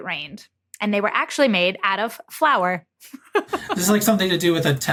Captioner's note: giggles